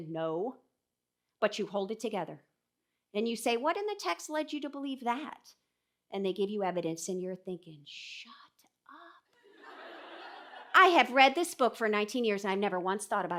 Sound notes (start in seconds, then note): 9.6 audience laughing